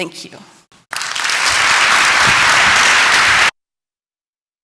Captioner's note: clapping